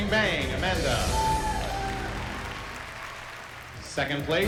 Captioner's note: cheering